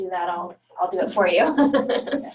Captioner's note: laughing